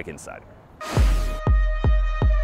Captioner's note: air rushes; drum beats